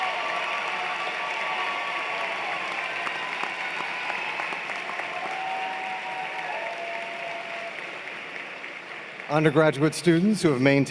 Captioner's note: cheers and Applause